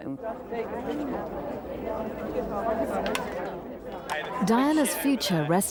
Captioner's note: indistinct chatters